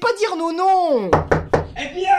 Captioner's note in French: Toc-toc-toc